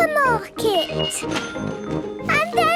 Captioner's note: cash register dinging